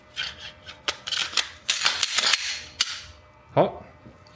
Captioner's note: gun assembly sound